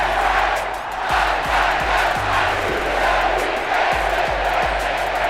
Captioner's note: crowd cheering